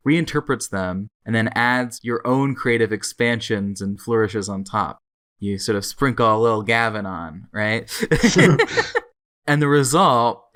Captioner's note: both laugh